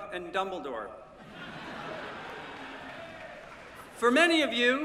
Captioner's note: laughter